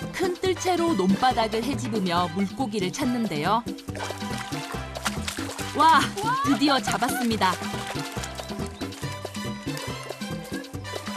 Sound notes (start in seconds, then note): 4.9 flapping